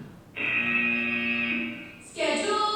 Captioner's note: loud buzzer; adult female with authoritative voice